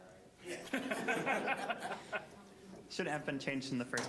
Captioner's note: all laughing